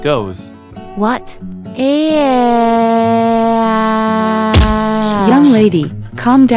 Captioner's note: screaming